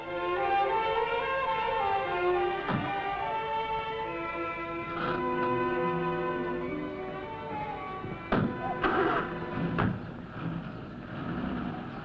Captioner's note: car doors closing and car engine starting